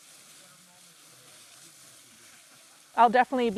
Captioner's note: leaves rustling